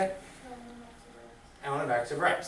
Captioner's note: student speaks softly